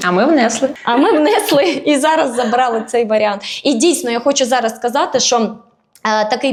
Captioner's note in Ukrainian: сміх